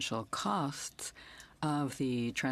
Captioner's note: speaking in French